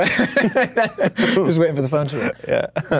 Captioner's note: laughs